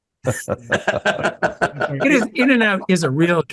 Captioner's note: laugh